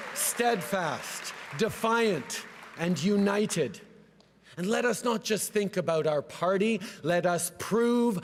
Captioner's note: cheering and applause